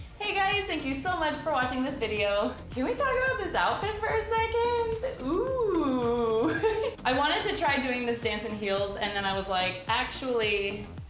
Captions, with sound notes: Hey guys. Thank you so much for watching this video. Can we talk about this outfit for a second? Oooooh. [chuckles] I wanted to try doing this dance in heels, And then I was like, "Actually..."